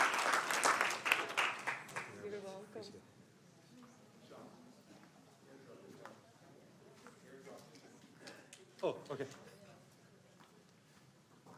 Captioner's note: applause